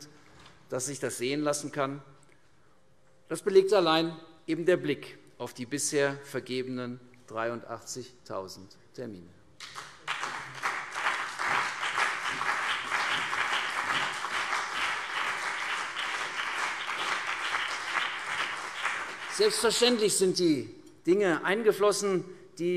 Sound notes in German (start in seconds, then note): 9.6 Beifall CDU und BÜNDNIS 90/DIE GRÜNEN